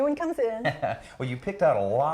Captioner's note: laughing